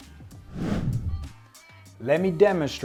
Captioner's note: air whooshing